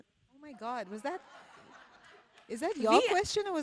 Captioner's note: people laughing